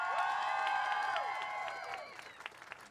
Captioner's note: cheers